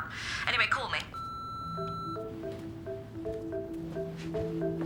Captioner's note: recorder beeping; upbeat music